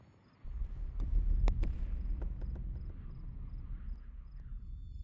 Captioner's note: air rumbling